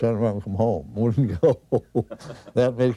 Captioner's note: chuckles